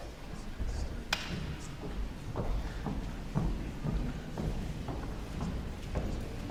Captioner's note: audience chattering softly; footsteps pattering